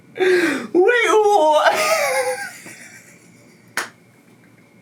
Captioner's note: laughs